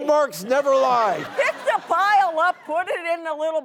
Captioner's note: laughter